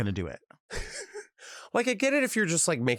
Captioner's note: laughs